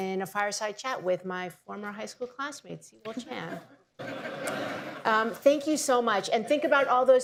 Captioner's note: laughter